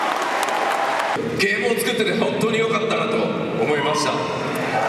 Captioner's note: speaking Japanese; crowd cheers